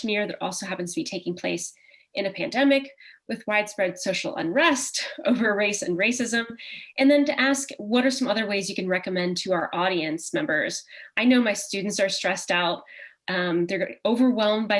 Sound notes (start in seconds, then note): 4.9 chuckle